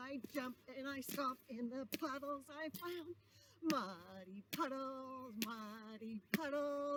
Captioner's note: jumps and stomps; alternates quick foot stomps